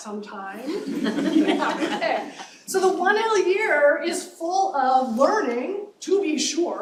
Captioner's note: laughter